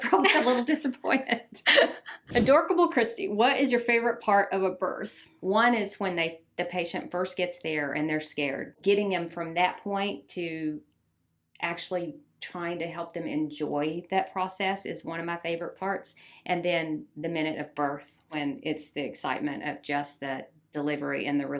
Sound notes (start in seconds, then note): 1.2 both laugh